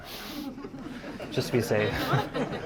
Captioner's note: audience laughing